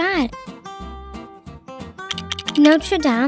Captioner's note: light upbeat music; lego blocks clacking